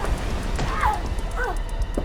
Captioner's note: strike thudding; Sue shrieks; Sue grunts